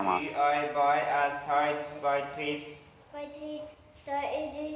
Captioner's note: Spanish spoken audio